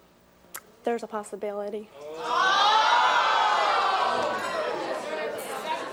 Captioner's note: audience uproar